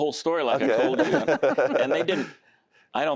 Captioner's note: laughter